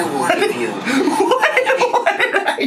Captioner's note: laughs